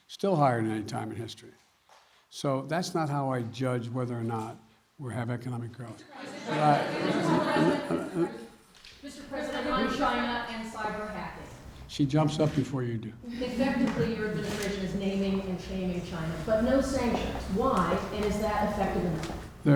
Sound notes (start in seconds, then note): 13.3 laughter